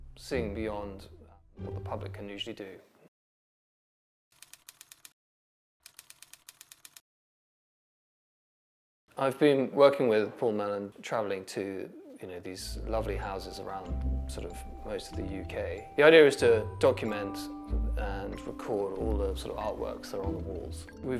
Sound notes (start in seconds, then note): 4.3 typewriter keys clicking